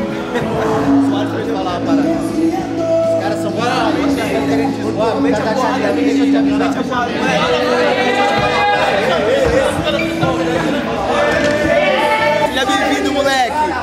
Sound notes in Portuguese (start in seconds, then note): 4.8 atletas gritando